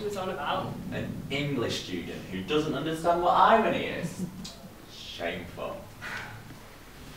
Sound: tuts

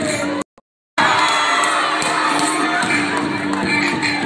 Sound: cheering

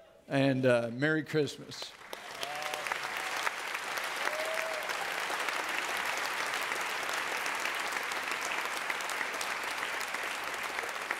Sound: audience clapping

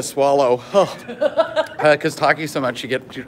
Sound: laughing

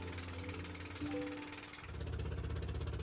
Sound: motorboat engine reviving

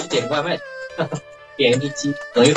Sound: laugh

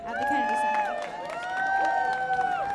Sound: audience cheers and applauds

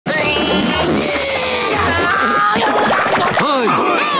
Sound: grunting

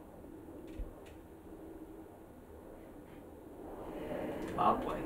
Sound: distant airplane humming

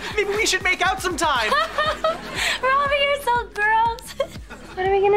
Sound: laughs

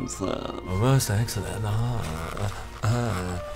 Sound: yummy exclamations

